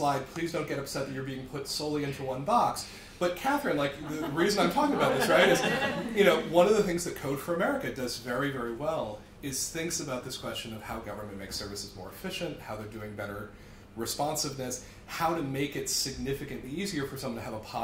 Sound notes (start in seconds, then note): 3.9 laughter